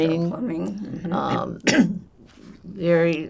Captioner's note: clears throat